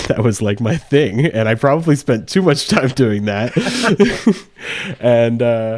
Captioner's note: laughs